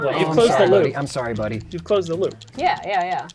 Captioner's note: pat